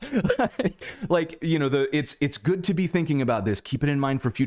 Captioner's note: laughter